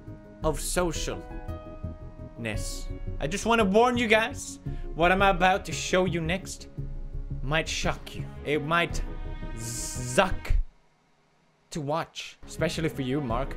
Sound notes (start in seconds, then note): 10.7 suck